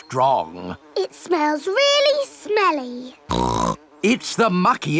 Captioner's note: snorts